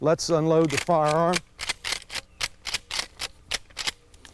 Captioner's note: gun corking